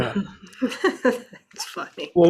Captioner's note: laughs